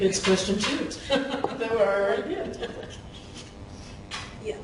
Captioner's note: laughing